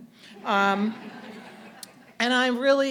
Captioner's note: audience laughing